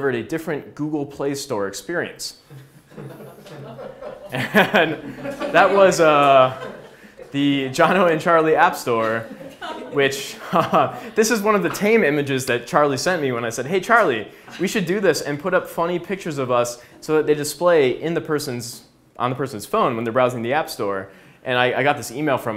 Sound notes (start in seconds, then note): 4.0 laughs